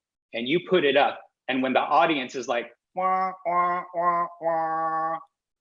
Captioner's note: honking